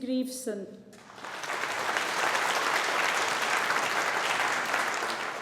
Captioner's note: audience applauding